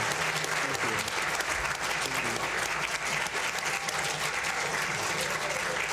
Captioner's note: all applauding